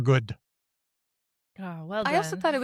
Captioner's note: chuckles